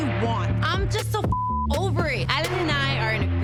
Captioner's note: beep